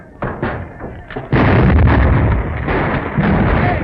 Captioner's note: explosion